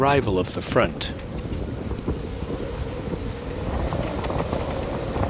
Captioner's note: wind whistling; flags flapping